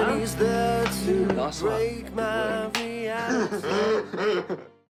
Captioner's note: laughs